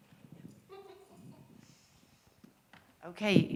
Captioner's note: woman chuckles